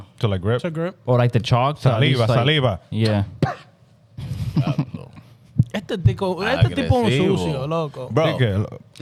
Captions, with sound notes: To like grip. To grip. Or like the chalk. (Speaking In Foreign Language) Saliba. Saliba. (Laughing) (Speaking In Foreign Language) See,